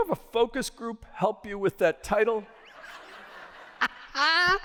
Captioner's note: laughter